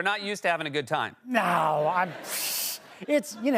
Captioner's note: scoffs